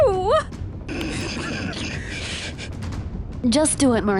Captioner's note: everyone snickering